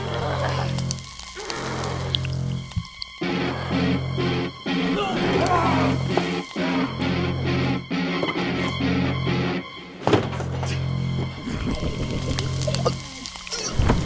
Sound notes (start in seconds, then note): 0.0 door creaking; 0.2 dramatic music; 3.2 zombies groaning; 3.2 zombie roars; 6.8 frantic music; 10.0 door slams; 11.6 flesh sizzling; 13.8 zombies choking